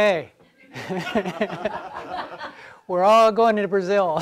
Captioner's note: general laughter